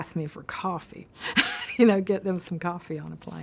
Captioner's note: laughs